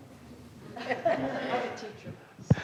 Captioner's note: laughter